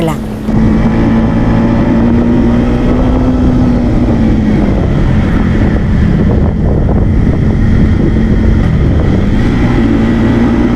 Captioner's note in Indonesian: suara sepeda motor